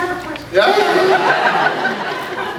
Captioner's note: fake voice; scattered laughs